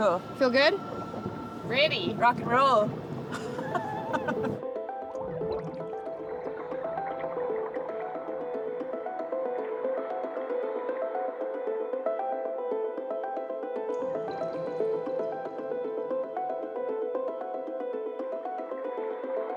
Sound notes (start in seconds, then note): 5.0 laughs; 8.3 lively music